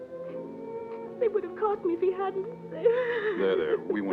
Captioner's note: crying